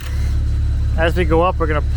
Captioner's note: machine rumbling